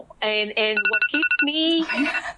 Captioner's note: phone alarm rings